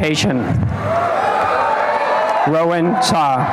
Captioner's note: applause and cheering